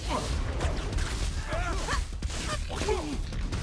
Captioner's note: grunting